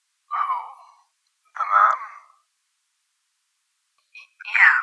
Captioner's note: silence